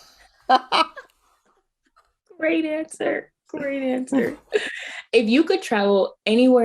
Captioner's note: laughing